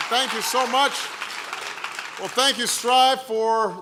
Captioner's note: applause